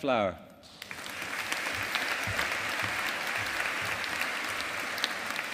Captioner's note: audience applauding